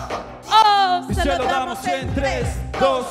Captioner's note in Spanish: none